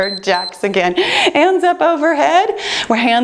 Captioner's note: timer beeps